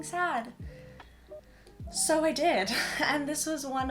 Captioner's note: chuckle